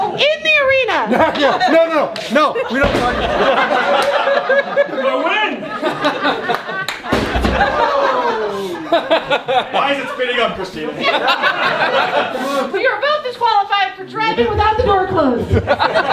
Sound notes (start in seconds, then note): 3.6 everyone laughing; 7.0 robot thudding; 8.5 crowd; 11.5 everyone laughing